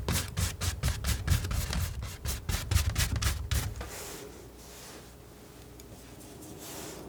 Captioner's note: scratching